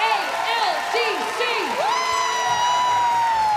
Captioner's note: cheering and applause